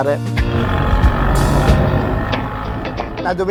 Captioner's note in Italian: Suono motore della Giannini 500